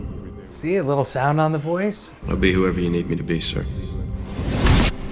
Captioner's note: echo; hit/swoosh